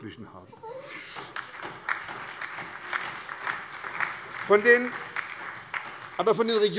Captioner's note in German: Beifall bei der SPD sowie bei Abgeordneten der LINKEN